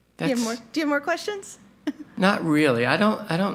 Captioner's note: chuckles